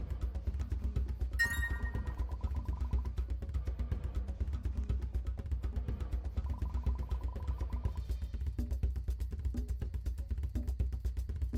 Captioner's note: ding